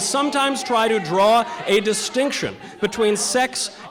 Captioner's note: protestors yelling